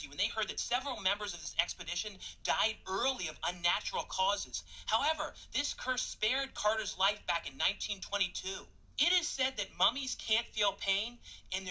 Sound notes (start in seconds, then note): none